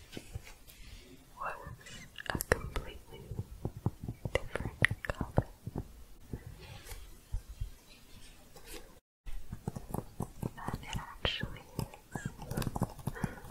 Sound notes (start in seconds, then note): 6.1 shuffling, then tapping